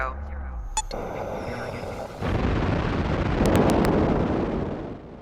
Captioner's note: rocket blasting off